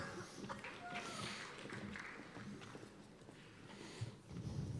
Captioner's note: cheers and applause